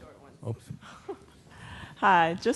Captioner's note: laughing